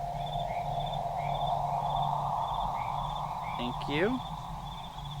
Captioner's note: eerie sound effect